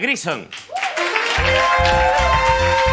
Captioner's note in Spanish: Aplausos